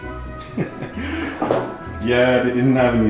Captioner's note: chuckling